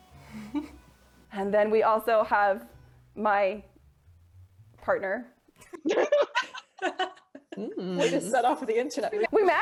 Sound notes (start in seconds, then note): 5.6 all giggle